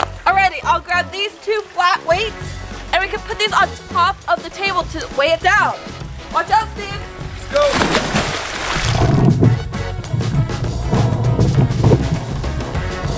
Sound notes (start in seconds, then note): 6.8 water splashing; 9.8 exciting retro music